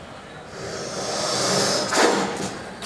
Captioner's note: hissing